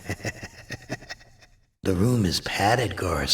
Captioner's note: laughs sinisterly